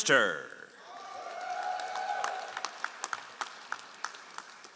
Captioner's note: all applauding